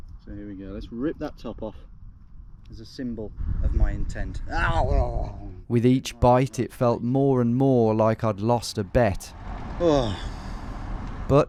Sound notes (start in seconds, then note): 5.0 growls; 9.8 exhales